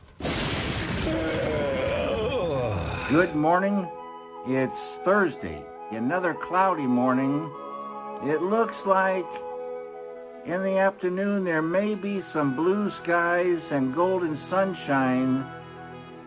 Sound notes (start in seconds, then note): 0.0 thunder; 1.0 Postal Dude yawns